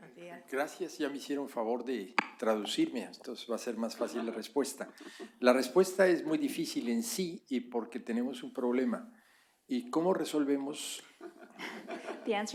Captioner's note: spanish